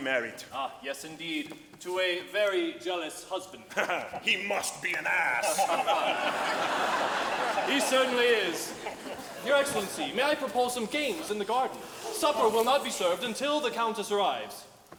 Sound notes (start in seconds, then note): 5.3 laughing; 5.4 audience laughing